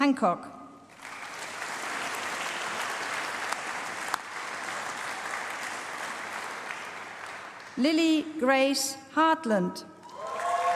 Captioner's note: applause; applause